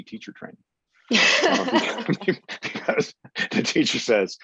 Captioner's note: laughs